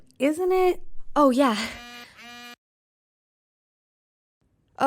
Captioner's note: phone buzzes